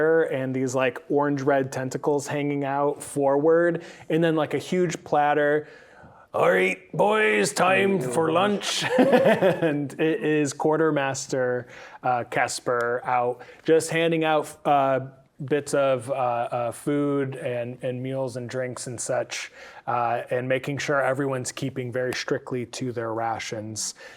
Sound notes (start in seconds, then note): 7.6 laughing